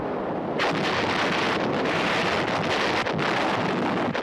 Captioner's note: artillery firing